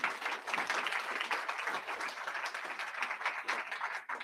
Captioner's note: crowd applauding